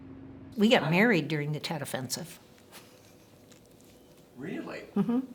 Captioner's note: laughs